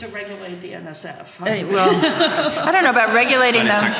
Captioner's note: audience laughing